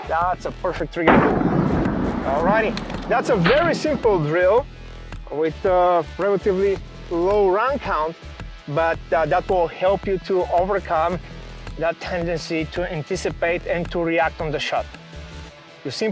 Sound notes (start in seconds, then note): 1.0 gun shoots